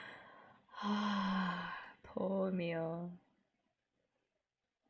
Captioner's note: sighs